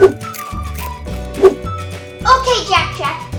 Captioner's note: whooshing